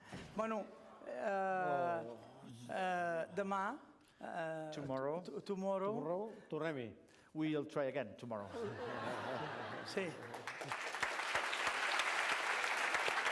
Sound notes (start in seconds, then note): 1.3 non-english speech; 6.3 non-english speech; 8.5 laughter; 9.9 applause